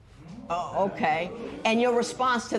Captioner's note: spectators murmur